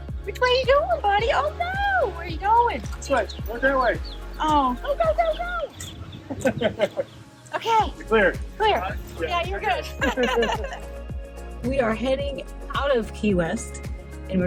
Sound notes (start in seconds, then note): 6.1 laughs